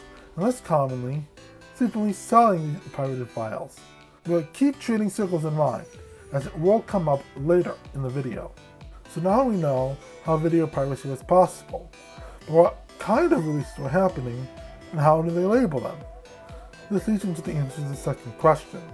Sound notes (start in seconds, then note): none